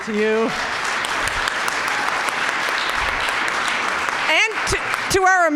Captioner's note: audience applauding